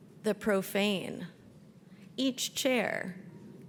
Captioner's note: none